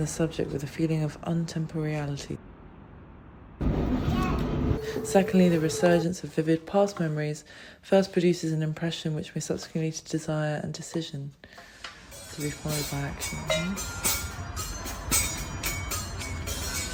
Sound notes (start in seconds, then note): 3.9 train rumbles